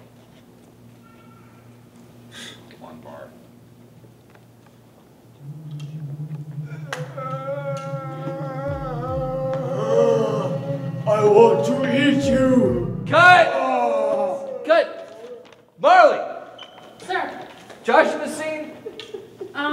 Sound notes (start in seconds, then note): 7.4 moaning